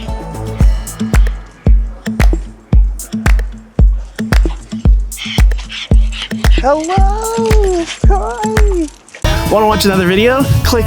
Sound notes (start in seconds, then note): 4.4 dog panting